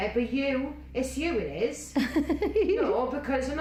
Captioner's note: woman laughing